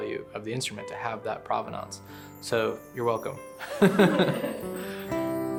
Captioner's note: laughs; peaceful music